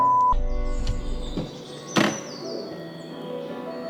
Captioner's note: door opens